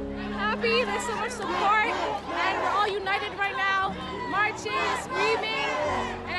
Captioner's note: chanting